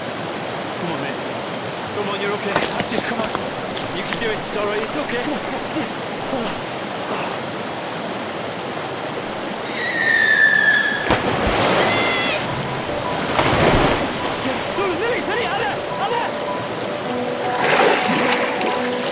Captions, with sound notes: - Come on, come on, you're okay. That's it, come on. You can do it, Olly. It's okay. (Lily screaming) (water splashing) - Lily! - Lily, Anna, Anna!